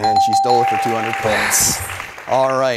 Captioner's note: dings